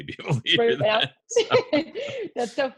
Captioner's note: laughs